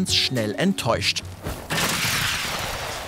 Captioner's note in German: Krachende Laute